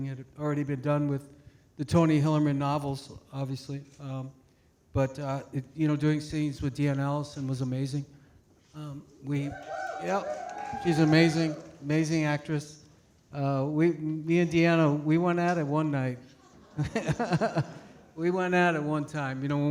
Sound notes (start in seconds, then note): 9.3 audience cheering; 16.3 laughs